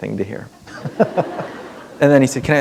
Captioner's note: laughter